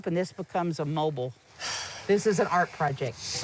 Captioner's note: sighs